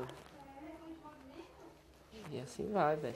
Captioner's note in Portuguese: Mulheres conversando ao fundo